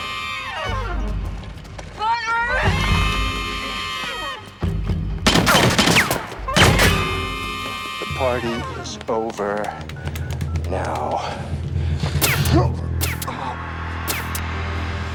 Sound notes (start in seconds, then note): 0.2 dramatic music; 2.0 screams; 5.2 gun fires; 12.2 gun fires